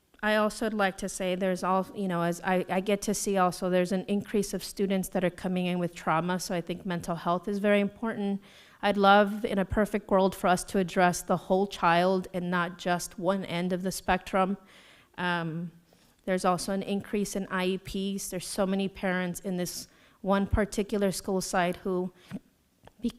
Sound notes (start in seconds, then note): none